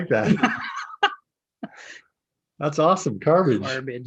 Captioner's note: laughing